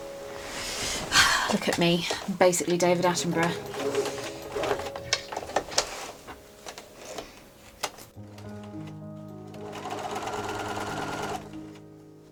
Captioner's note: sewing machine whirring